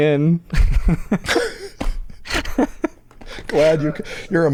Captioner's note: laughter